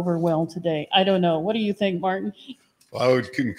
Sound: laughs

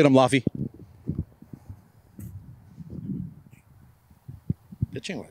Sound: wind blowing

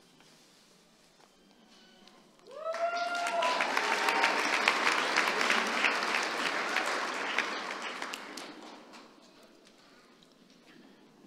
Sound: applause

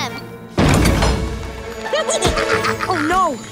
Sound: evil laughter

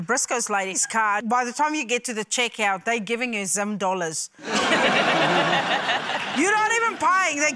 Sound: laughter

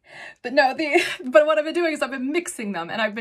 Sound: chuckles

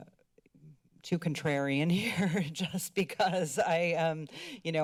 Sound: giggling

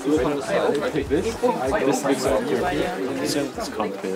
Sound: all chattering

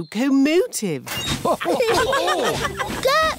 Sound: laughter

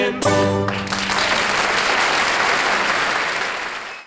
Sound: audience applauds

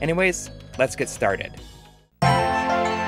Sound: game audio

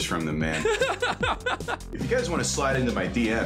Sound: laughing

